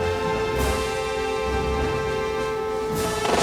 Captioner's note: alarm Continues